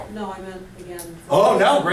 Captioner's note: voiceover